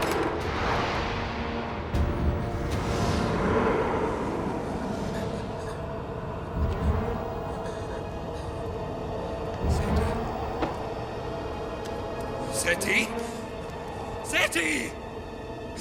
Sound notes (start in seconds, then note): 7.1 boy gasping